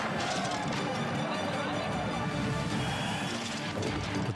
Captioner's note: spectators chatter; bike clatters